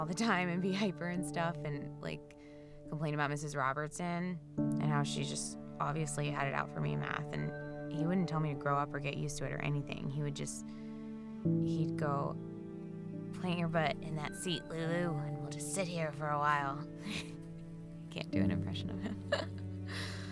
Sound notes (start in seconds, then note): 11.9 deep voice; 16.5 laughing